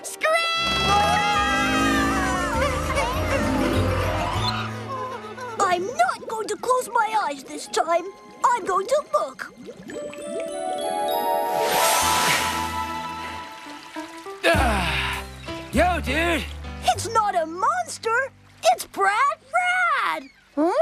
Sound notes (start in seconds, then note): 1.7 machines Screaming; 10.1 bubbling & Gurgling; 14.6 exhales